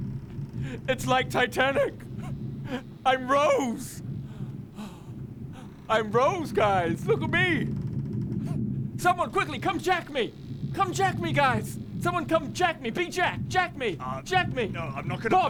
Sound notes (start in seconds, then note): 4.7 sigh